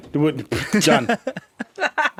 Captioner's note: all laughing